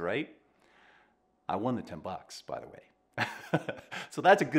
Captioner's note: chuckling